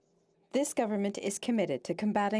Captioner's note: speaking French